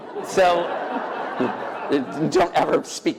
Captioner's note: laughter